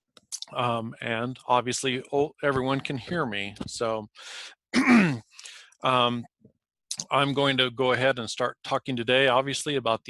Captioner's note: clears throat